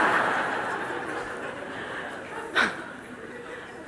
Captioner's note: laughter